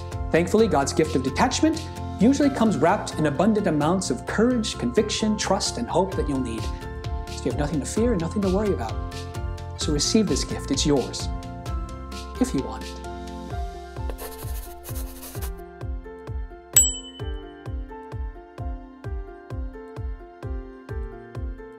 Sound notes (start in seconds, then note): 14.0 marker scribbling; 16.7 bell dings; 16.7 upbeat music